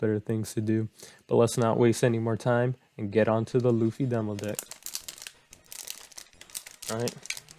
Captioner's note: card opening